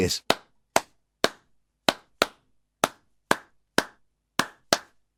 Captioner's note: clapping rhythmically